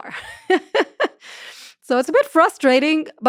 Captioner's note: laughs